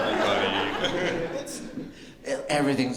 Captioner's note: laughter